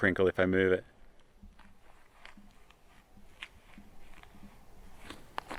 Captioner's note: foot crinkling